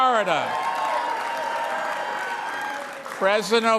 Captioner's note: cheering and applause